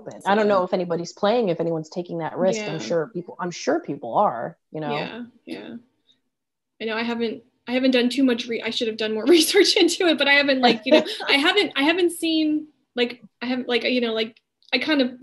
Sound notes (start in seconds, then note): 10.6 laughing